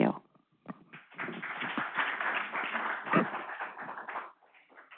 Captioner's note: audience applauding